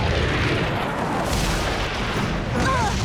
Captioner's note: explosion; both grunt